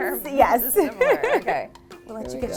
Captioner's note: laughs loudly